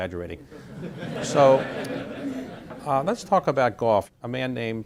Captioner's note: laughter